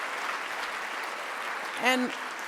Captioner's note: applause